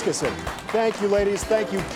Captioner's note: audience applauds